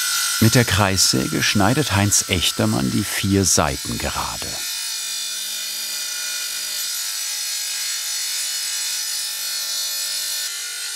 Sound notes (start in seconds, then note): 5.0 saw screeches